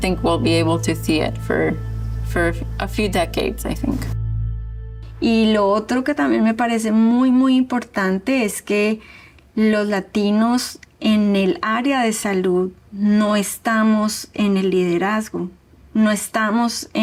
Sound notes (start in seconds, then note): 4.1 speaking Spanish